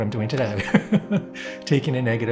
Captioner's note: laughs